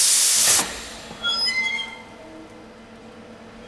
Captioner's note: hissing ends, oven flap squeaks